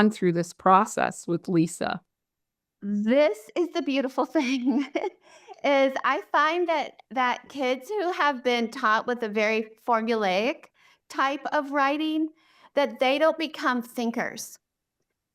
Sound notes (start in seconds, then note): 4.4 chuckles